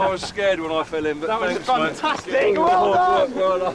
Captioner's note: crew cheering